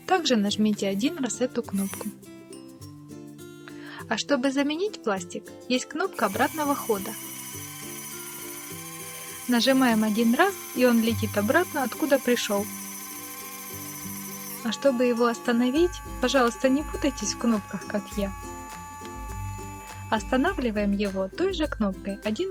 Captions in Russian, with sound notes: также нажмите один раз эту кнопку а чтобы заменить пластик есть кнопка обратного хода нажимаем один раз и он летит обратно откуда пришел [звук жужжания двигателя ручки] чтобы его остановить пожалуйста не путайтесь кнопках как я останавливаем его той же кнопкой